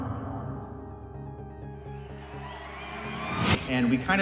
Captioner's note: cheering